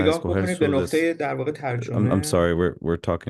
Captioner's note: speaking foreign language